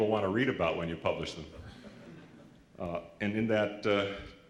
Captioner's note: laughter